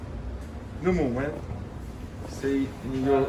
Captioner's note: speaking in foreign language